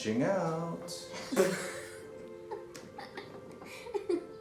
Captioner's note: boys laughing